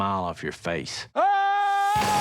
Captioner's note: yells; gunshots